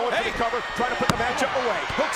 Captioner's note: hands thudding